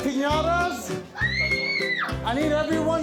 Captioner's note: scream